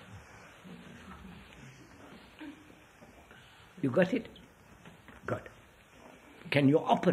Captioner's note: laughter